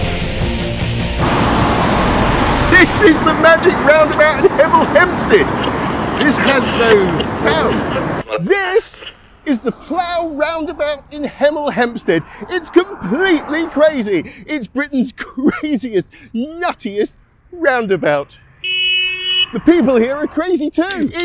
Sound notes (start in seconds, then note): 0.4 loud traffic noise; 6.6 loud traffic noise suddenly stops